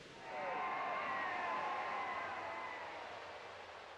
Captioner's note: crowd cheering